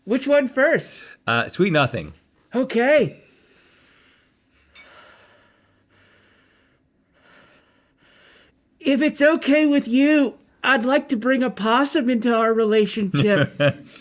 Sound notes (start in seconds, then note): 5.1 breathing heavily; 13.1 laughing